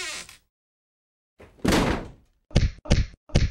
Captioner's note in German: Quietschende Tür; Zuschlagende Tür